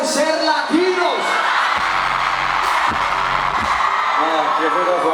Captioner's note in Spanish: público aclama